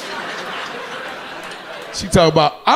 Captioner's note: audience laughing